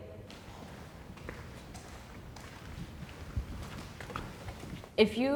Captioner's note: footsteps thumping